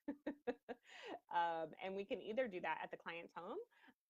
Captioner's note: laughing